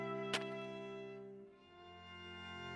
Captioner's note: shovel impacts dirt